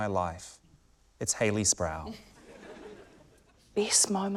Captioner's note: laughter